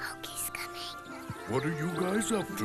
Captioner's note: whispering